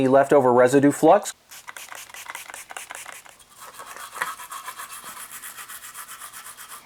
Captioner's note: spray & Tooth brush cleaning sounds